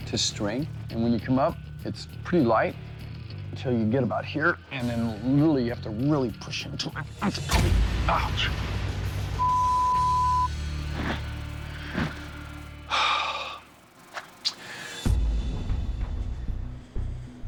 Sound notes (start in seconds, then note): 6.8 line snaps; 12.8 sighs; 14.7 tense music